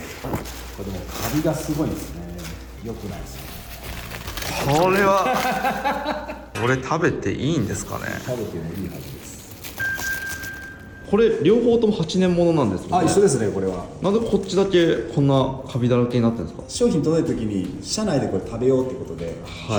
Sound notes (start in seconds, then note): 4.9 laughs